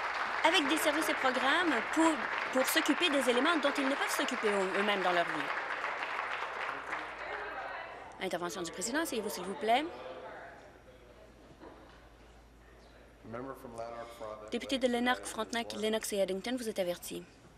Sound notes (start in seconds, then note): 5.5 some Applause